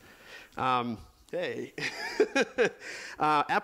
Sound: laughs

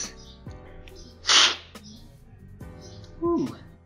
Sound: slurping

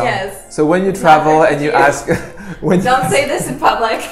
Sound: laughs

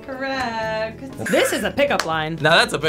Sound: bell dinging

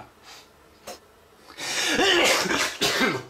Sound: sneeze

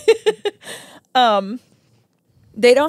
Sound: laughs

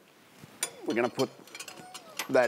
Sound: metallic clanking; metallic clattering

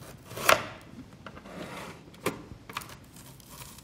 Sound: onion slicing

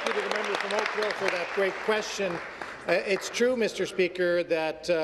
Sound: applause

